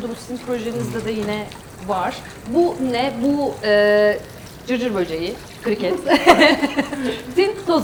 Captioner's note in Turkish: kahkaha